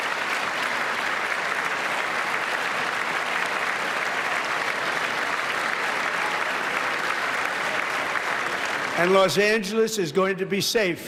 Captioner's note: applause